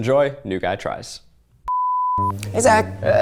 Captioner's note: electronic bleeping; quirky orchestral music